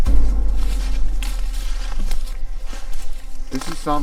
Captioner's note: leaves crunching